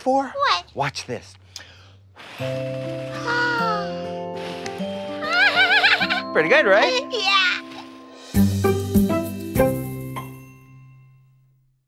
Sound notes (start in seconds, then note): 5.2 laughs; 8.3 audio logo